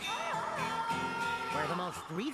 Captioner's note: wailing